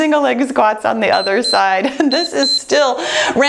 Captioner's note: timer beeps